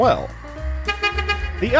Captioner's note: honk honk